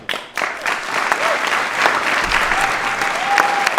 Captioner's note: applause